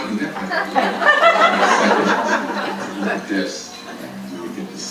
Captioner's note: audience laughing